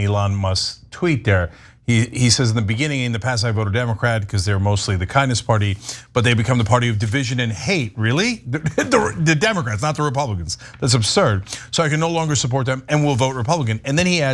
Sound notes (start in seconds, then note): 8.6 laugh